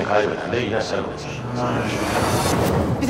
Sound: transition sound

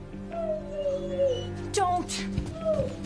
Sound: suspenseful music; dog whimpering

